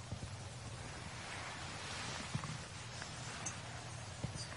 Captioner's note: water falling